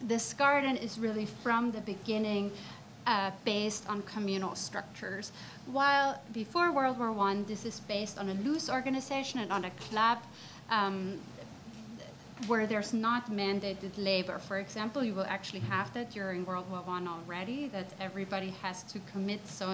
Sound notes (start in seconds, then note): none